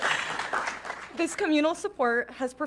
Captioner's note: audience clapping